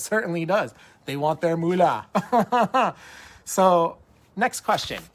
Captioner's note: laughs